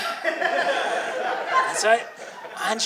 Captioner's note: audience laughing